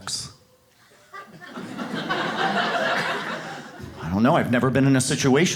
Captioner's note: audience laughs